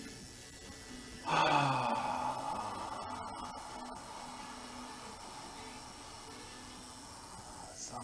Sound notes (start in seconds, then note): 1.2 deeper sighing